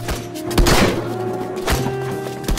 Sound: gunshot; gunshot

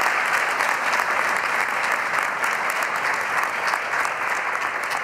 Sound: applause

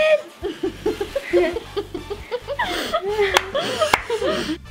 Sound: laughs; claps

